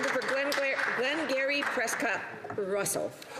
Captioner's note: some Applause